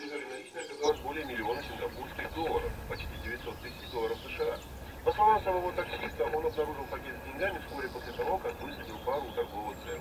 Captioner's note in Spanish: sonido de radio de fondo